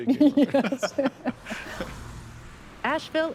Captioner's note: laughing